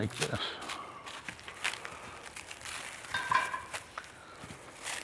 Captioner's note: wrapper rustling